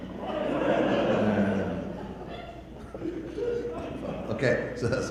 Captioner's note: audience laughter